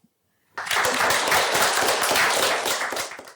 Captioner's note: applause